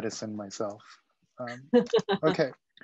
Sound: laughs

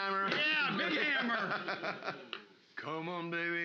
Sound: loudly laughing

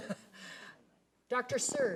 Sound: laughing

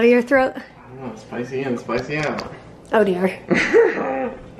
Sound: laughs

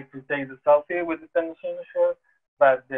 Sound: murmurs

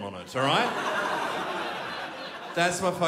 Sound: crowd laughs

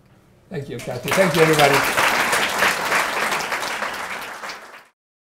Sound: audience applauding

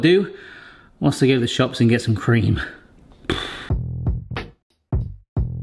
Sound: sighs

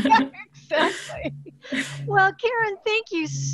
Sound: laughter

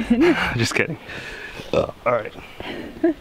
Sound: burps; laughing

